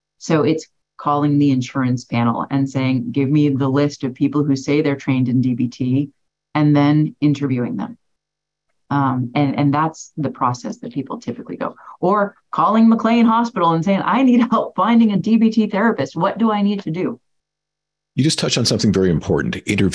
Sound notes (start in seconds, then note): 14.3 laughs